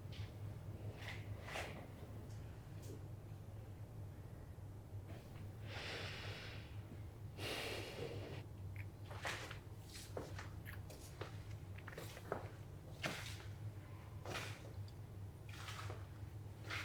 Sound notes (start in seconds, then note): 7.0 Rachel sighs; 11.8 shoes stepping